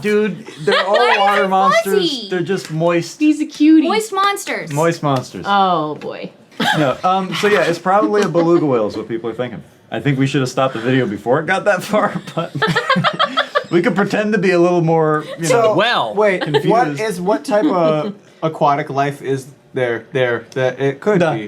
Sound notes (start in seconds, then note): 12.2 laughing